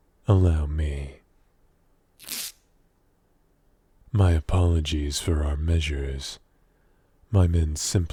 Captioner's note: tape noise